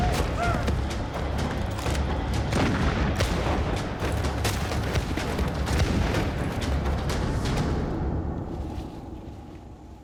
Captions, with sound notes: of the Revolutionary War, Boonesborough is under siege. [gunshots]